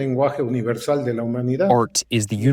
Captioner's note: through translator